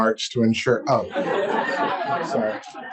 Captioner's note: audience laughs